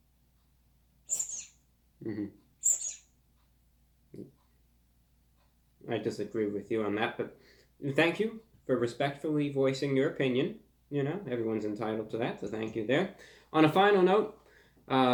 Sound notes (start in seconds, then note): 1.1 squeak; 4.0 mutter